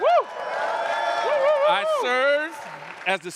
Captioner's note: crowd cheering